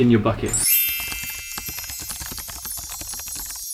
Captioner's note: chiming bells